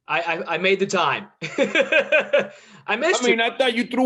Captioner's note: laughs